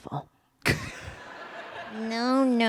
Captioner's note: laughter